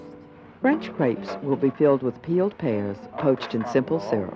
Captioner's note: voiceover